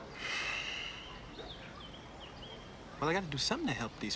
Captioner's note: sighing